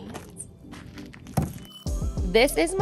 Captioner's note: wood thuds